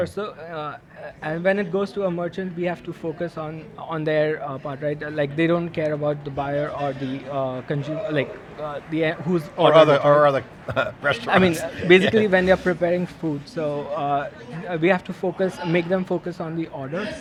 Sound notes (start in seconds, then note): 11.1 laughs